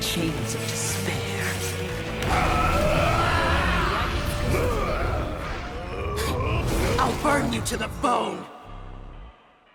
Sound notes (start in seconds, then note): 2.2 demented screaming; 8.1 distorted woman's voice